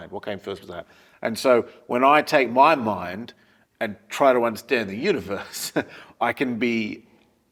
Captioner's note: laugh